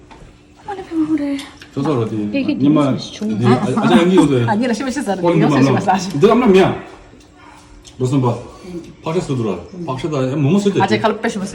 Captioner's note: more table chatter